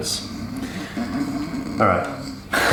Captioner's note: snores